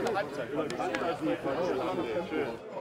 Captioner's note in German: Stimmengewirr